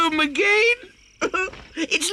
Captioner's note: sobs